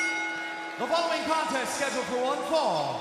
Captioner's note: crowd cheering; bell ringing